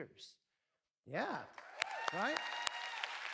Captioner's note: cheers